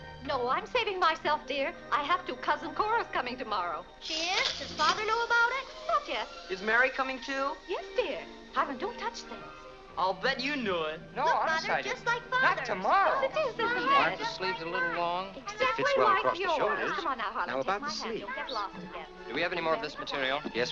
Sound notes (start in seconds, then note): 14.1 customer and tailor arguing